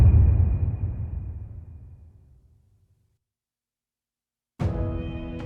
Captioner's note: dramatic sound